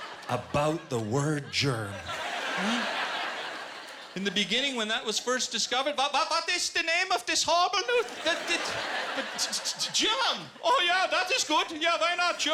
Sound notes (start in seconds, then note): 5.6 German accent